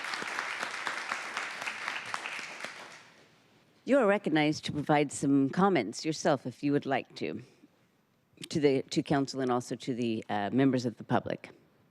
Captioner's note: applause